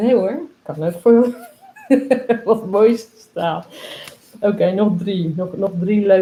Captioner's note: laughs